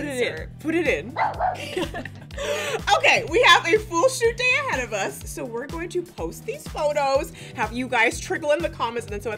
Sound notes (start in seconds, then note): 1.1 dog barking; 1.4 both laughing